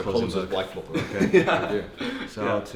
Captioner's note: laughing